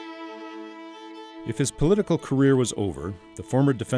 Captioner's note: voiceover